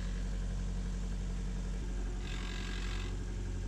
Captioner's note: buzzing